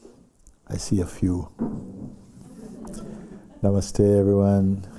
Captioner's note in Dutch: gelach